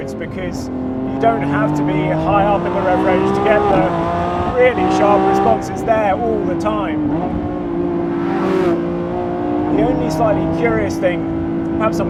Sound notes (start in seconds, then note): 7.2 car roaring